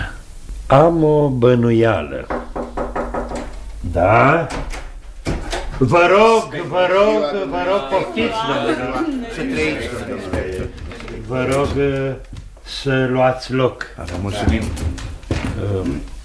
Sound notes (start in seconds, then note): 2.2 knock on the door